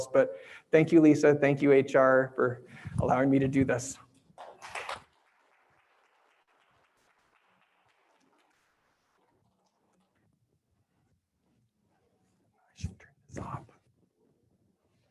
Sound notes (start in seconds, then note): 4.3 applause